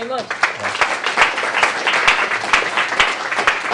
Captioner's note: applause